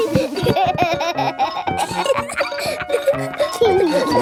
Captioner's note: giggling